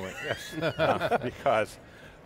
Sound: laughs

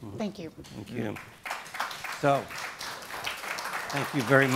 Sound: clapping

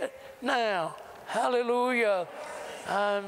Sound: audience repeats prayer throughout

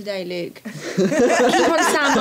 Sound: laughter

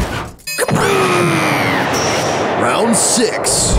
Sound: explosion

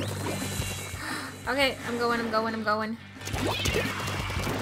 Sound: gasp

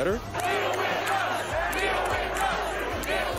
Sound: chanting

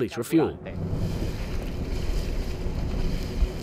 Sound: engines buzzing; waves sloshing

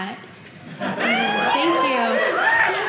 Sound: audience cheering

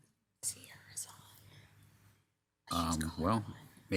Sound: person whispering

